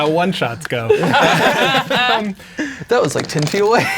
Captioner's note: all laughing